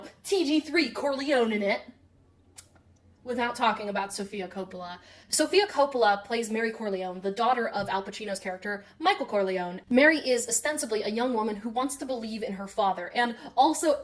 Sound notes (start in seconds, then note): none